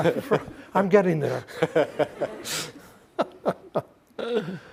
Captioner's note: all laughing